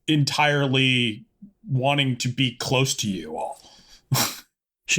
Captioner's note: laughs